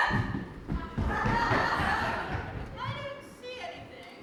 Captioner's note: audience laughs